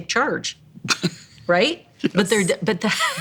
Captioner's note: laughs